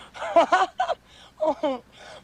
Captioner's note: laughing